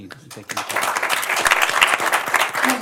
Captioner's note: applause